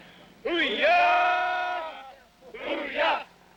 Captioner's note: chanting